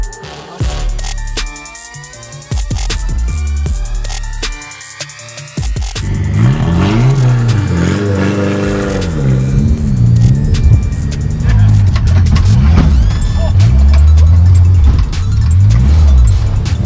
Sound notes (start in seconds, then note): 6.0 engine revving